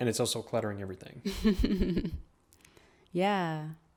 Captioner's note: chuckles